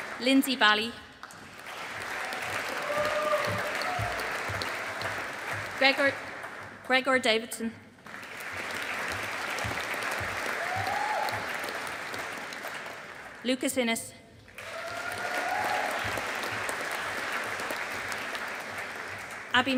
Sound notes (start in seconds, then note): 1.2 audience applauding; 8.0 audience applauding